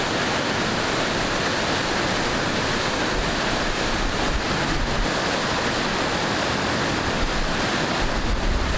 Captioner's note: water noise